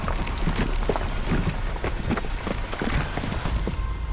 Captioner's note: rocks clattering